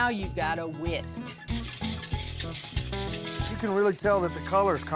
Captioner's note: stirring